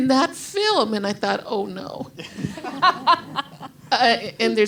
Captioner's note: crowd and others laugh